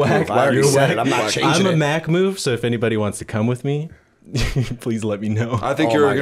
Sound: chuckle

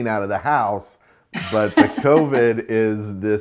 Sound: laughs

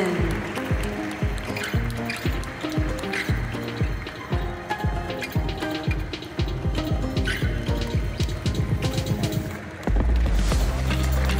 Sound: applause; ♫ Midtempo guitar music ♫

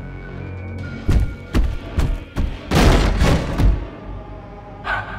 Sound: loud footsteps, door bangs open

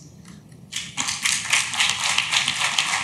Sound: clapping

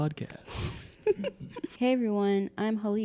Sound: laughs

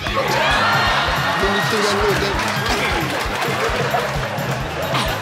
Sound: audience laughing and cheering

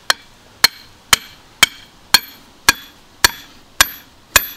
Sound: hammer clanging

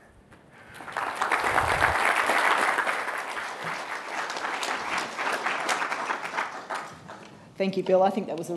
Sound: applause

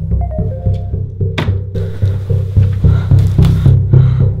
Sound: cell phone dinging

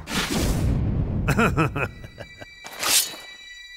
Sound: mischevious laughter

